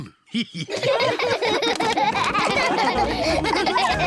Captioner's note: all laughing